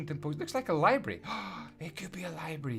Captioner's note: gasp!